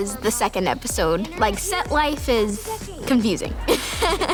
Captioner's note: laughing